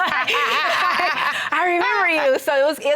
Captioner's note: laughing